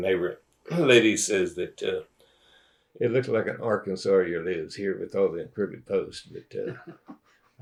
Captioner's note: laughter